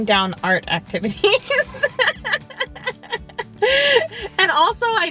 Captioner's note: laughing